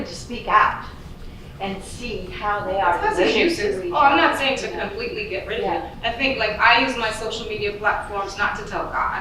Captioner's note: sudden audience chatter